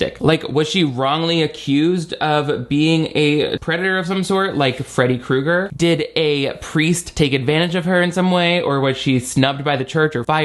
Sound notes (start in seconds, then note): none